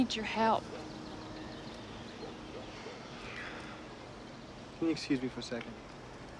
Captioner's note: sighing